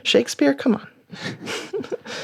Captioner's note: laughter